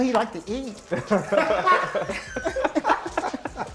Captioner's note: laughter